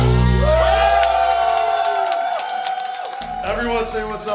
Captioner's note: audience applauding and cheering